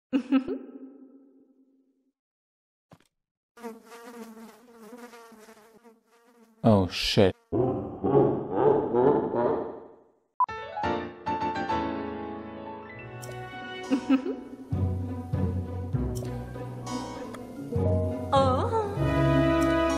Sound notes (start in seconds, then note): 0.1 giggles; 3.6 flies buzzing sounds